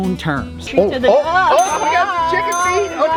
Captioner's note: both speakers shouting